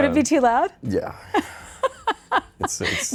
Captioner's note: laughing